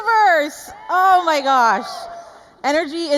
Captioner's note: audience cheering